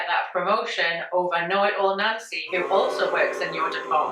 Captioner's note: crowd boos